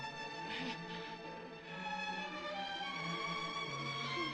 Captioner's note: sobbing